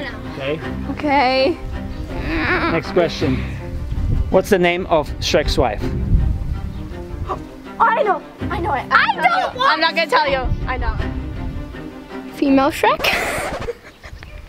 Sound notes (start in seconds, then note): 2.1 whimpers; 13.0 track scratches; 13.1 laughs